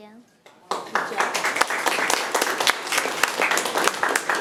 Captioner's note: audience applauding